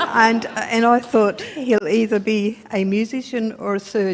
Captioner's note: laughter